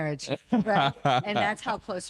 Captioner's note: laughing